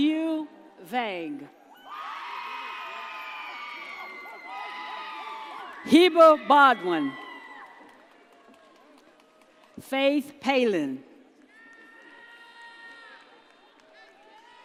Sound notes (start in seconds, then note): 1.9 audience cheers; 11.6 audience cheers